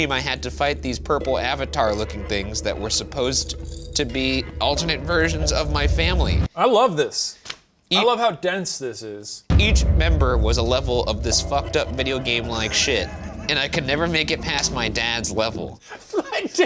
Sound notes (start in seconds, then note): 13.2 laughs; 16.5 laughs